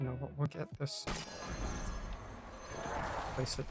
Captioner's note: whooshing